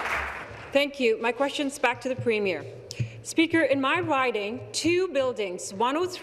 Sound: applause

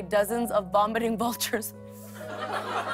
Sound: laughter

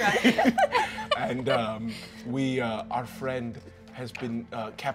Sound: all giggling

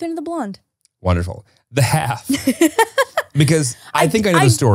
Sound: laughs

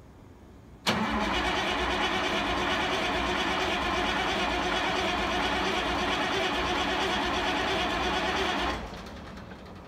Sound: engine struggles to turn over

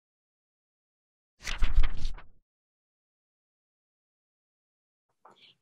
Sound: fluttering Pages

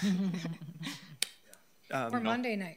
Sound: people chuckling

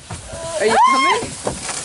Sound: yelling

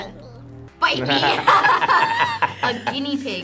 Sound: both laugh

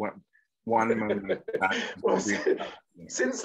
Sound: laughs

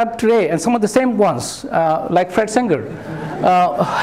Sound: laughter

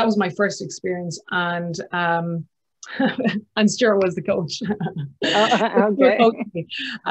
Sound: laughs

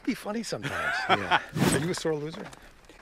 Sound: laughs

